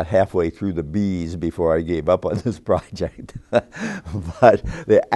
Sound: laughs

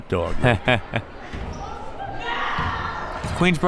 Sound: laughs

